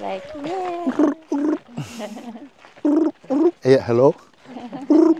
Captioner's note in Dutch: Mooji doet een krekel na; doet krekel na